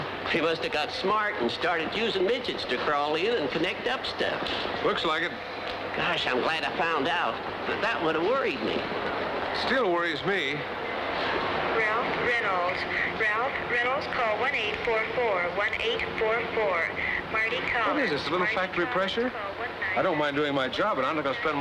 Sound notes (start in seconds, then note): 11.9 woman on PA